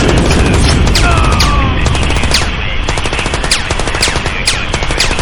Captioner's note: man groaning